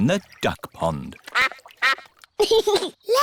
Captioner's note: quacking; giggles